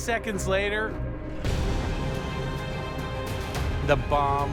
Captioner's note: bomb explodes